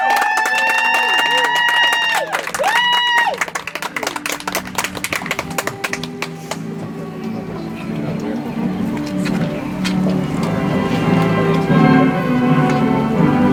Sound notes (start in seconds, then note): 2.4 audience applauds; 9.4 soft music